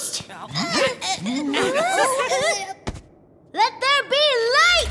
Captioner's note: grunting